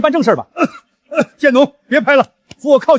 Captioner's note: cough cough